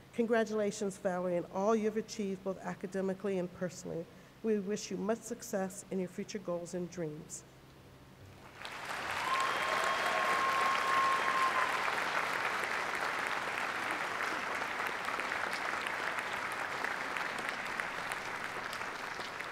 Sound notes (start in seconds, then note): 8.4 applause